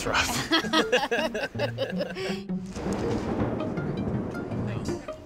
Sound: laughing

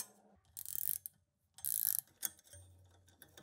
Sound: ratchet clicks

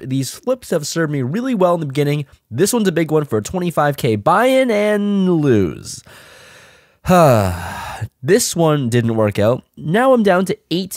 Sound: sigh

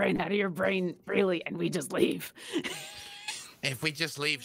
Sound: laughs

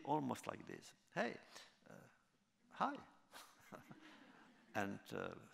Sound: laughter

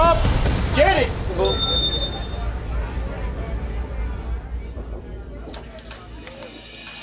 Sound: dinging

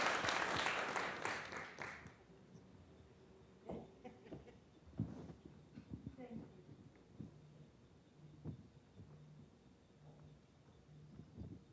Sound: applause

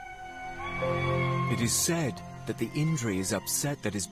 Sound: lemur moaning

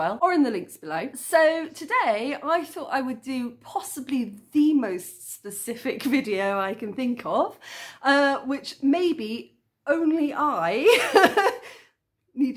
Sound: laughing

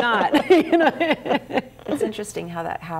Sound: everyone laughs

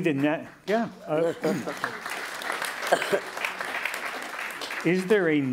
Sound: applause

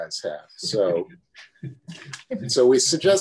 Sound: laughed

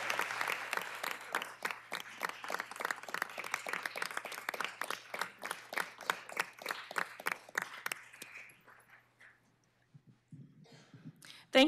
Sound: applause

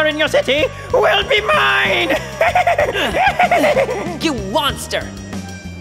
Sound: evil laughter

